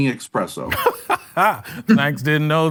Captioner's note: laughs